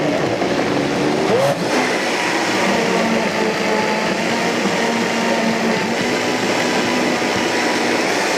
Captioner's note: blender whirring